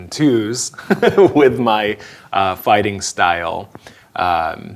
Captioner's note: chuckling